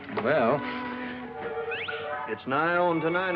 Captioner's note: whistle